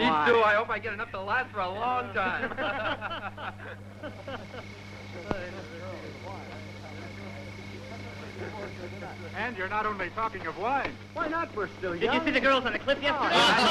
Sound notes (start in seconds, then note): 2.1 laughing; 2.6 chattering